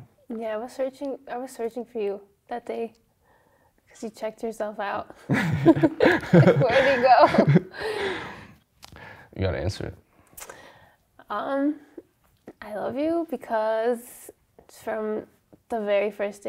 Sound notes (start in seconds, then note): 5.2 laughs